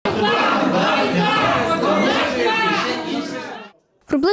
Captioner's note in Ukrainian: Лунають вигуки «Ганьба!»